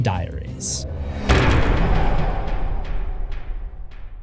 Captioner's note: impact